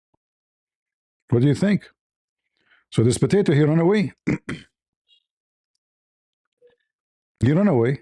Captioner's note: cough and clears throat